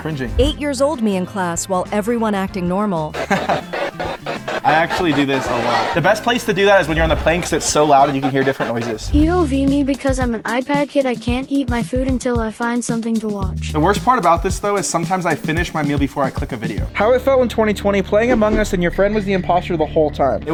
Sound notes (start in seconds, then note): 3.1 laughing